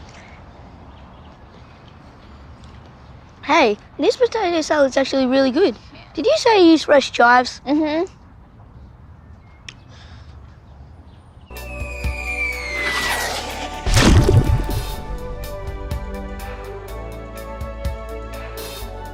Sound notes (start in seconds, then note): 11.7 whooshing; 14.5 electronic music